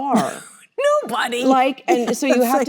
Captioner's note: laughs